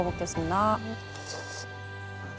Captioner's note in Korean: 호로록